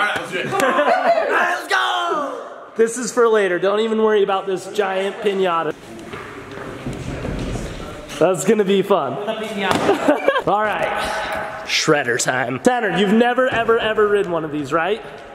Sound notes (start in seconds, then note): 9.9 laughs